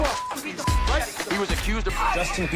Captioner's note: beep